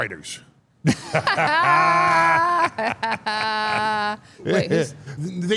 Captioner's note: laughing